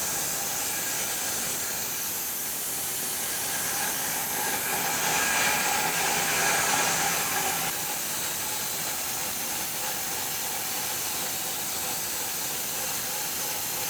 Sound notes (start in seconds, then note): 5.6 saw humming continues